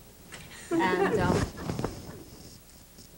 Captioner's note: laughter